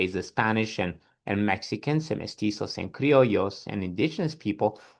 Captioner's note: speaks Spanish